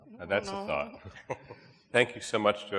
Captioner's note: chuckles